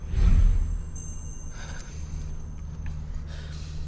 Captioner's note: sighs